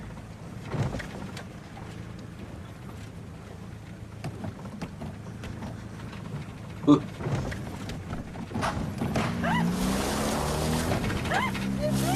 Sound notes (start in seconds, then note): 4.4 pedals rattling; 8.5 car popping; 8.8 car engine revving